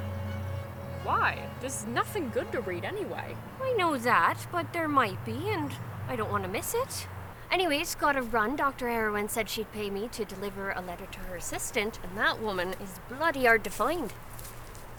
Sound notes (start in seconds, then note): none